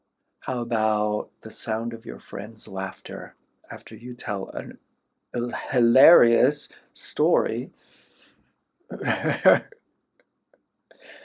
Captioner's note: laughter